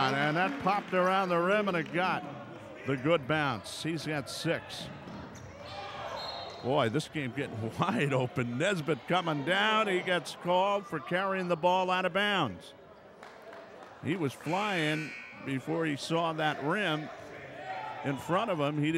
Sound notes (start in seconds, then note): 5.4 yelling; 6.2 whistle blows; 13.2 clapping